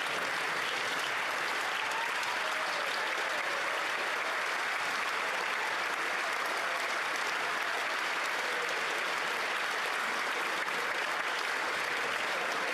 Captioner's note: applause